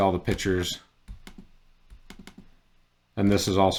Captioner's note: keyboard tapping